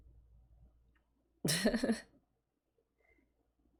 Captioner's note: laughs